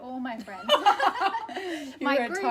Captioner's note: laughter